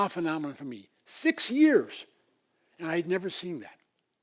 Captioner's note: none